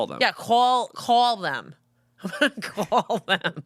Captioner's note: laughs